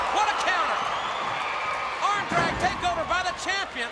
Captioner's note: crowd cheering